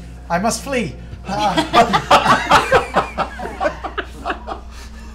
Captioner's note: laughter